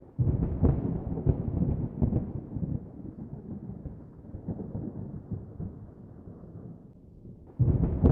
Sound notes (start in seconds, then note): 0.1 thunder